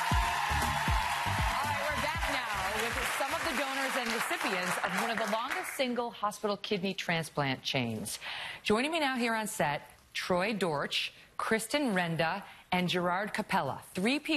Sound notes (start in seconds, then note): 4.6 applause